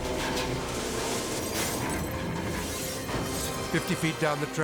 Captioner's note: glass breaking